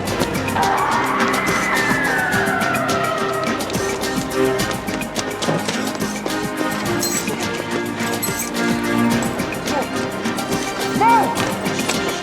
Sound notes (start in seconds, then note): 0.2 suspenseful music; 8.2 keys jingling